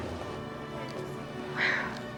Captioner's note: sighs